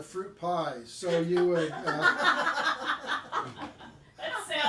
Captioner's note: group laughing